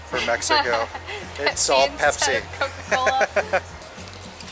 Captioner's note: laughter